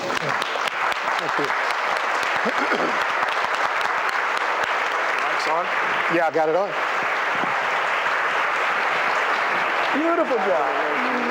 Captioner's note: applause and Background Speaking